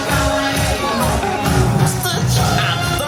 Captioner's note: upbeat music; Stitch speaking French; upbeat music